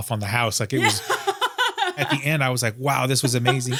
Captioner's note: laughs